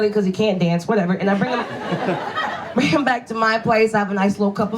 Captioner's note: audience laughs